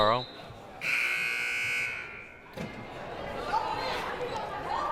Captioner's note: buzzer blaring